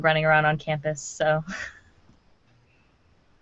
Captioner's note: laughing